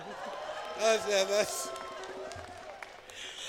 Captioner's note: laughter; cheering